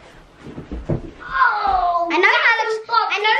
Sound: shouts

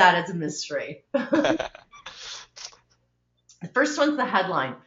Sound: laughing

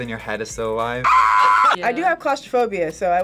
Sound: screams

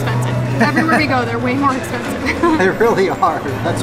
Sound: laughs

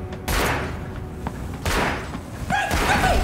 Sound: gun firing

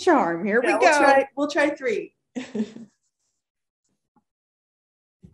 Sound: laughing

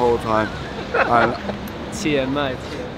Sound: crew laughs

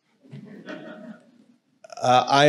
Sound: audience laughing

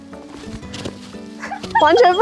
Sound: laughing

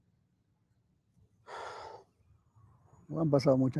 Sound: sighs; speaking in foreign language

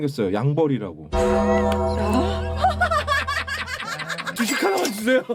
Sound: laughs

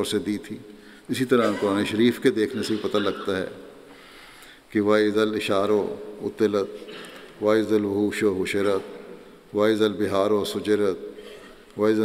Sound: Arabic

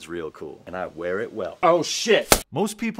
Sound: camera drops

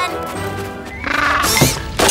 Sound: squawking

